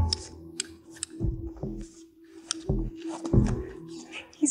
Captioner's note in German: Klicken